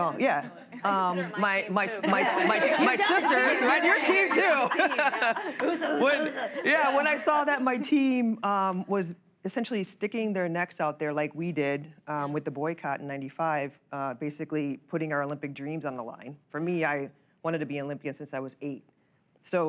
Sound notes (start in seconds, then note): 1.9 laughter; 5.7 laughs